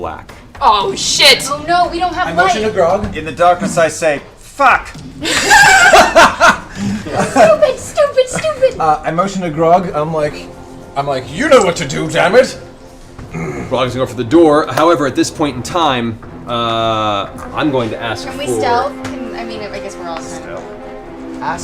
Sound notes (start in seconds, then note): 5.2 laughter